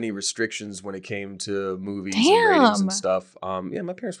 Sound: faintly speaking

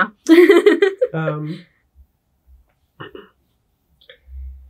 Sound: both laughing

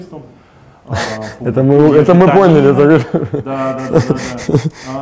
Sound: laughs

